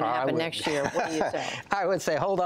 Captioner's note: laughter